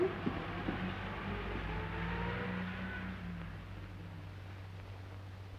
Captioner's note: traffic humming